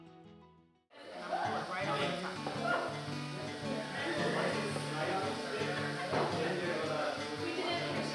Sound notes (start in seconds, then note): 0.9 people chatter